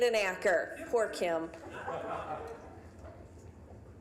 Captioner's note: audience laughing